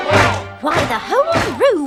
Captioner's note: chanting